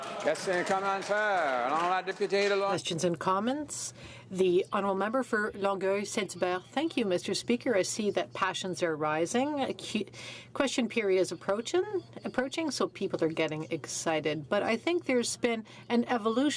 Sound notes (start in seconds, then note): 9.4 speaking in french